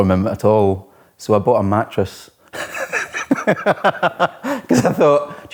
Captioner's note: laughs